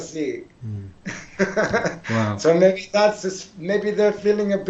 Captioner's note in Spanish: Risas